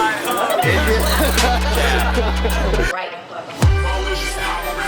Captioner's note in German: Gelächter und Gemurmel